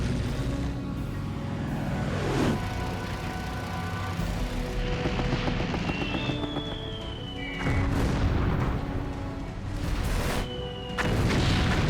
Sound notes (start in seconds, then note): 3.1 gunfire; 6.5 artillery whistle; 11.0 explosions